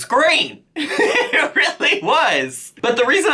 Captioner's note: chuckles